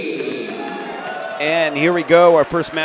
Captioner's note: crowd cheering